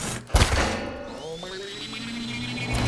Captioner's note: thudding; metallic warbling